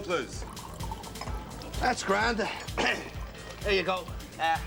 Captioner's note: Se aclara la garganta